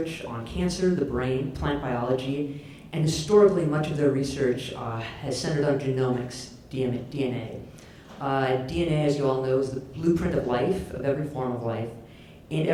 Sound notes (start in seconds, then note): none